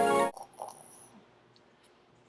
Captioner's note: throat gurgling noise